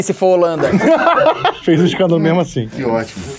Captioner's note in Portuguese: risadas